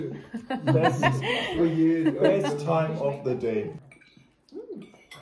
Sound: laughing

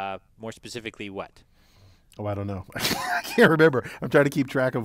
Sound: laugh

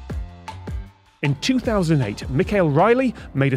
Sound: none

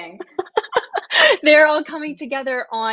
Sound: laughs

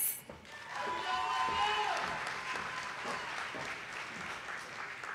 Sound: audience applauding

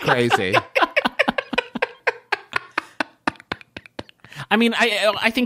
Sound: laughter

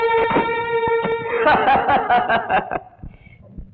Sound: laughs

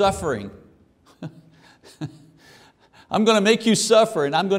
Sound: laughing

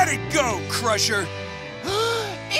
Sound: gasping

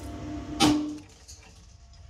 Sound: glass tube bursts

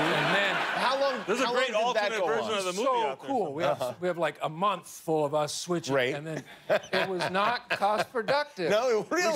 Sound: laughter

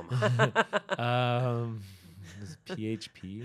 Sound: chuckling

